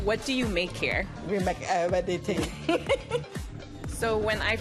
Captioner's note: laughter